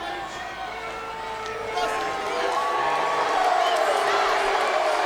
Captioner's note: audience jeers